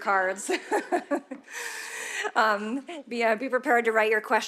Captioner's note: audience laughing